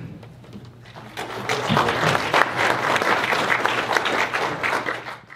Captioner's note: applause